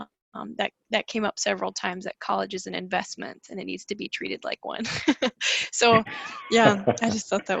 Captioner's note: laughs